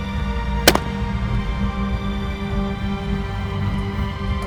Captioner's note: gunshot cracking